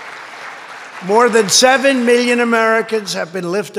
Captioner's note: applause